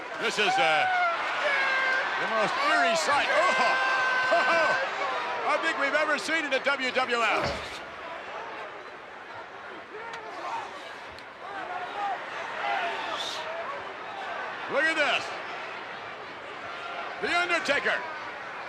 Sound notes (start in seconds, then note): 4.2 laughs; 12.1 crowd clamors